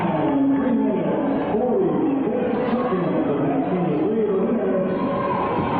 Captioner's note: announcer speaking